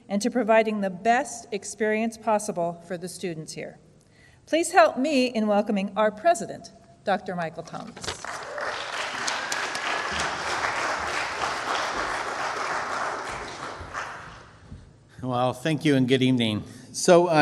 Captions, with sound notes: and to providing the best experience possible for the students here. Please, help me in welcoming our president, Dr. Michael Thomas. (audience applauds) Well, thank you, and good evening.